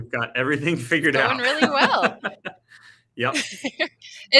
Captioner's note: laughing